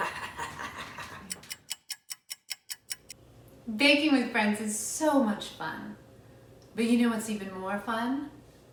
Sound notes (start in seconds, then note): 0.0 laughing; 1.2 timer ticking